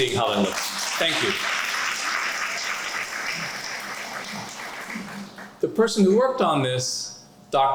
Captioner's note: applause